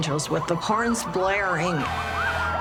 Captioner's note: sirens wailing; horns blaring